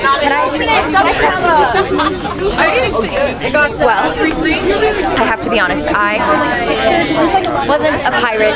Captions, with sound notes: (people chattering) Well, I have to be honest, I wasn't a pirate originally.